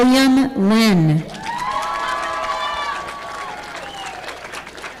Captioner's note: audience applauding